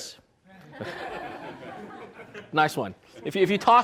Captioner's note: audience laughs